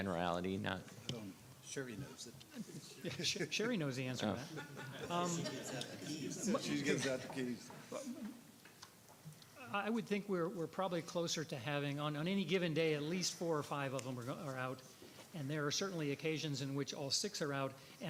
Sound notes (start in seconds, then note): 5.9 laughing